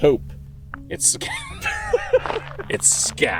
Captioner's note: both laughing